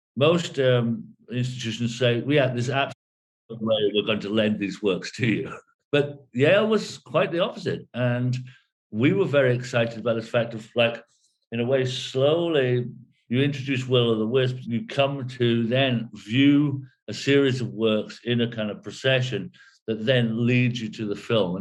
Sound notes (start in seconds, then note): 5.0 chuckles